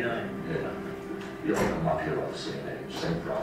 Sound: voiceover; sharp click drowns out audio

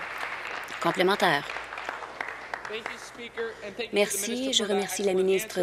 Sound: applause

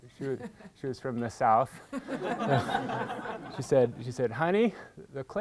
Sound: audience laughing

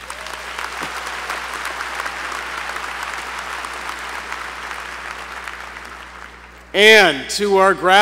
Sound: applause

